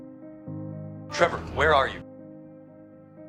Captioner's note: over comms